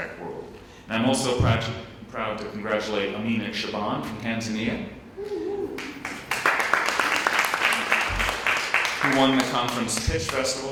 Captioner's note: applause